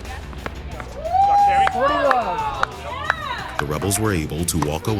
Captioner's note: cheering